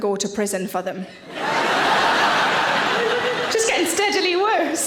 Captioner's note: audience laughing